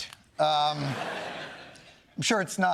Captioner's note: laughter